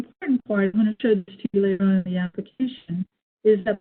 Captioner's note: distorted audio